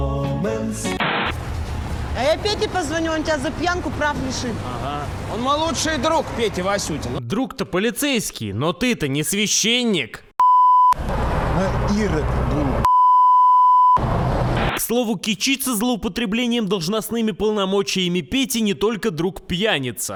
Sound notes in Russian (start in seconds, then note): 1.0 помехи; 14.0 помехи